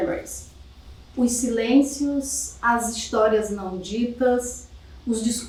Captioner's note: speaking portuguese